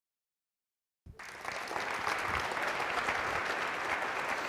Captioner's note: applause